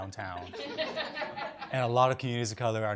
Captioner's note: audience laughs